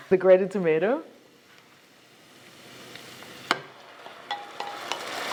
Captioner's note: sizzling sounds